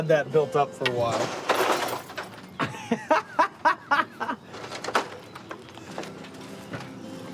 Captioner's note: glass shattering; laughing